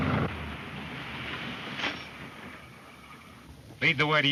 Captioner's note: engine puttering